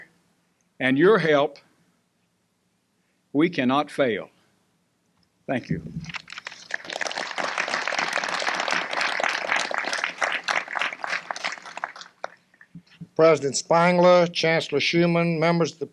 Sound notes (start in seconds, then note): 6.0 applause